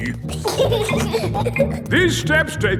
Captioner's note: giggling